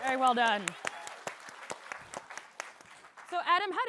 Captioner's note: applause